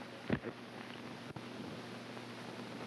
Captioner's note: none